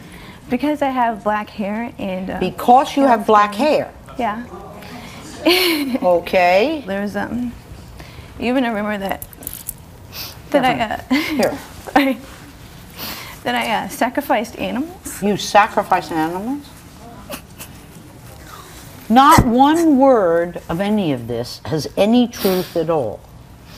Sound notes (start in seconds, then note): 4.3 audience exclaiming; 17.1 cries